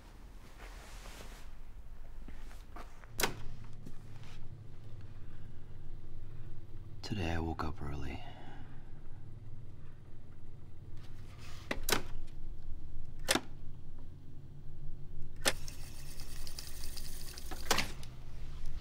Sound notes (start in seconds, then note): 2.4 clicks; 11.0 clicks; 14.6 tape rewinding